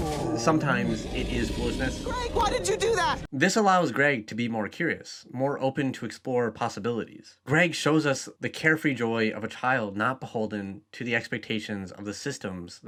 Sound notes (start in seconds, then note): 0.2 voiceover; 3.3 voiceover